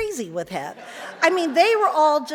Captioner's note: audience laughs; giggles